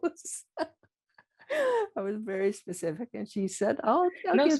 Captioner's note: laughing